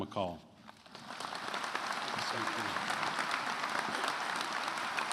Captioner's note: attendees applauding